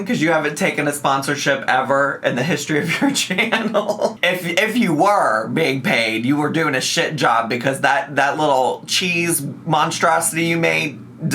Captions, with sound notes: 'cause you haven't taken a sponsorship ever in the history of your channel. (laughs) If you were being paid, you were doing a shit job because that that little cheese monstrosity you made?